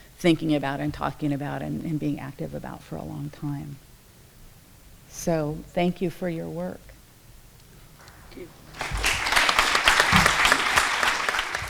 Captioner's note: applause